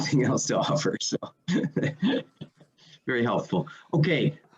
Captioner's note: laughs